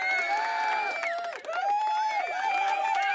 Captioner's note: cheering